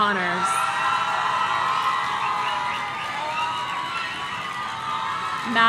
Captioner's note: audience cheering